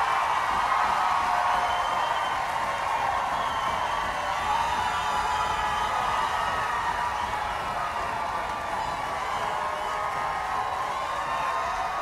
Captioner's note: applause